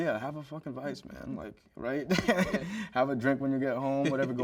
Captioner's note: chuckles